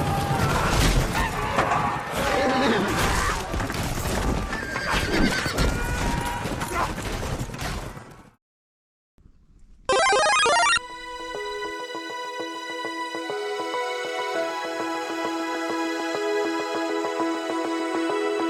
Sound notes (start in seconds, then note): 0.0 cavalry charge noises; 0.0 battle noises; 9.9 power-up sound effect